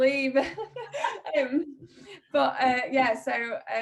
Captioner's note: laughs